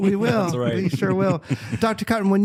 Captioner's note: laughter